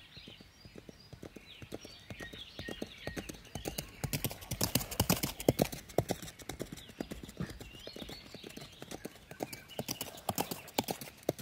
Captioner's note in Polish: Odgłos końskich kopyt